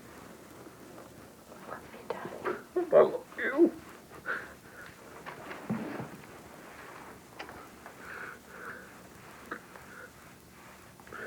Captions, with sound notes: >(whispers) I love you, dad. >I love you! (sobs)